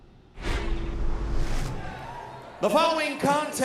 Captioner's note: crowd cheering